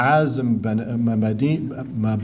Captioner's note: speaking arabic